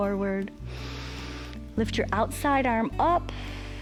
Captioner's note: inhales; exhales